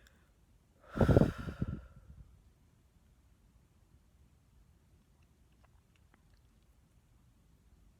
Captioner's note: she exhales